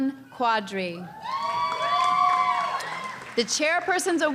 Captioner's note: audience cheering